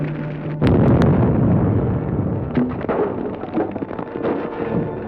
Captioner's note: explosive booming